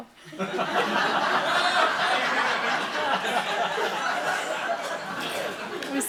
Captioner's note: laughing